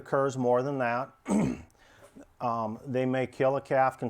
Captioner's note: clears throat